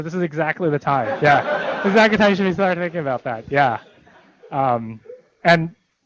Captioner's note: laughter